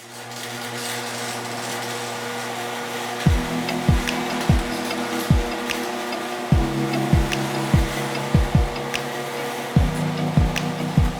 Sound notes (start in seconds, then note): 0.8 garage door opens; 3.2 slow instrumental music